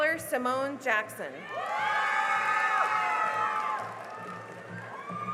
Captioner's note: cheering and applause